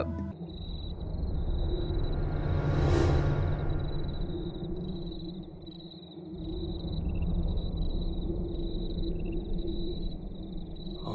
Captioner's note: crickets